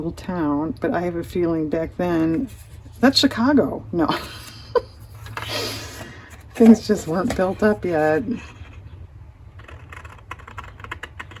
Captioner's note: laughs